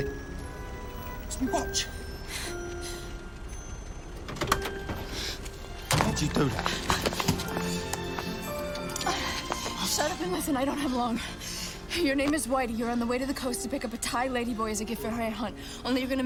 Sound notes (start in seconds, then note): 7.5 sirens blaring